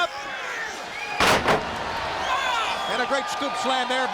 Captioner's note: crowd cheering; shouting